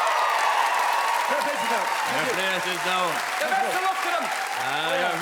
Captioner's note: cheers and clap